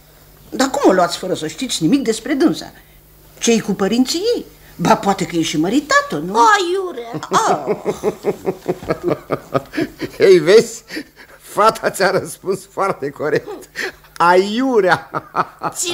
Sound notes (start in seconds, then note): 7.0 laughs